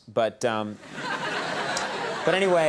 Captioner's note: audience laughing